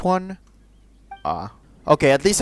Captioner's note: disappointed